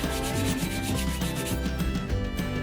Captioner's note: none